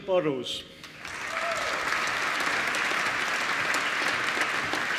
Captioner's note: applause